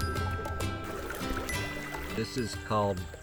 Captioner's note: water gurgling